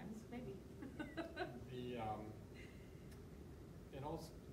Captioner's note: laughs